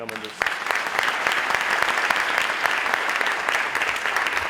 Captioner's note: audience applauds